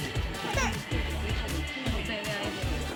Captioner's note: crying